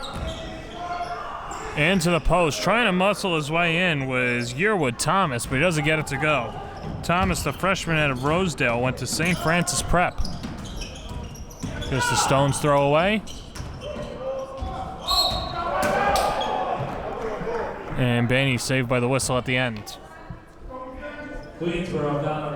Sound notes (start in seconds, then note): 15.0 whistle blows